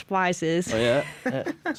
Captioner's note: laughter